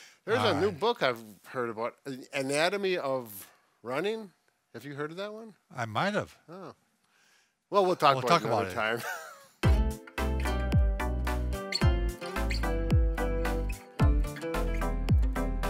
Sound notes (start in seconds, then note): 8.9 both laughing; 9.6 upbeat music